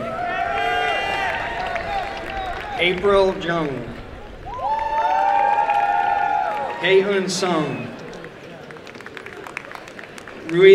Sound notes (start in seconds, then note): 0.1 applause and cheering; 4.0 applause and cheering; 8.6 applause and cheering